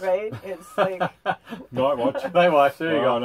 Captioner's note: laughter